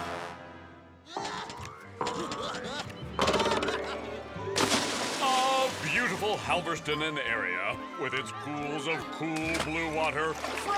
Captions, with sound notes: (child laughing) (jumping board bouncing) (water splashing) Oh, Halverston-in-Area with its pools of cool, blue water, frolicking children,